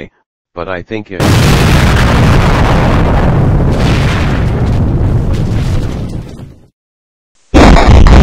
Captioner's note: explosion